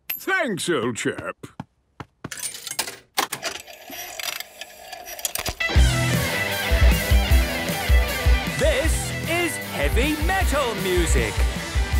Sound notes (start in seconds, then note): 3.2 clicks, whirring; 5.6 heavy metal music plays; 8.7 shouting